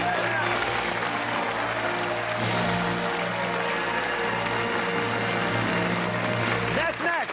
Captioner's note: fanfare; cheers and applause